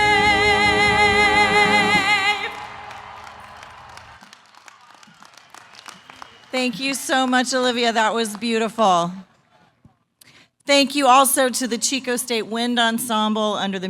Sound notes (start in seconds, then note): 2.4 applause